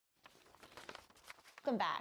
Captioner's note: paper shreds; paper crinkles